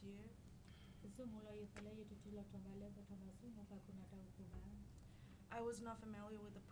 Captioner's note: speaking in foreign language